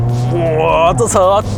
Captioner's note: Kecik Miao Roarrrrrring